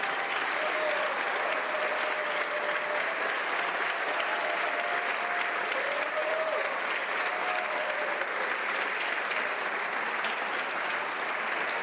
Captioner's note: applause